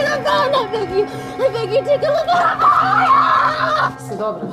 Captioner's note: screaming